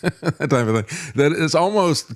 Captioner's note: laughs